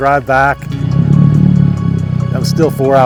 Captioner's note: outboard motor starts